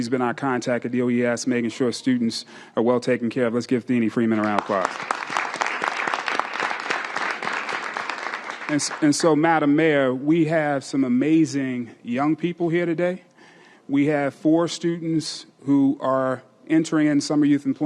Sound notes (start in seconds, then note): 6.3 applause